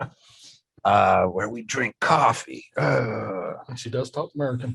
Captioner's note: growls